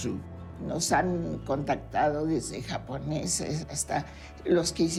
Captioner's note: in Spanish